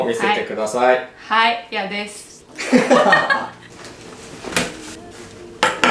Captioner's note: laughs